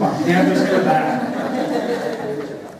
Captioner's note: laughter